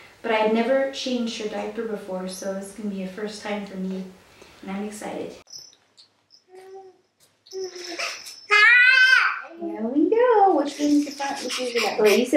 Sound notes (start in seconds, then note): 7.6 cries